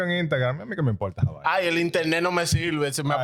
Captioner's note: speaking In Foreign Language